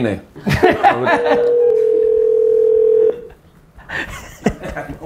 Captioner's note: Gary laughs; phone ringing